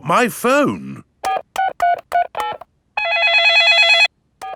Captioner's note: dialing; cell phone ringing